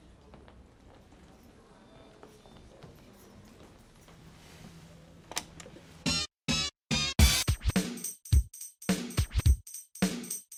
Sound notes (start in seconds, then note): 5.6 button clicks; 6.8 upbeat funky music